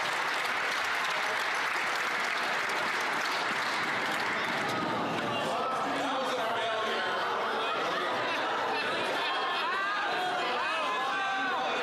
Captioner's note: some Applause